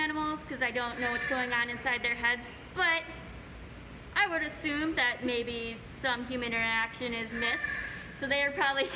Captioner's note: bird squawk